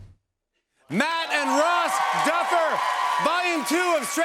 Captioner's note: cheers and applause